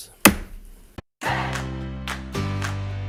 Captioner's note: gavel bangs; upbeat music